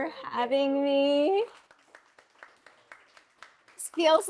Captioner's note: applause